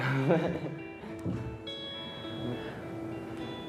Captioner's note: laughs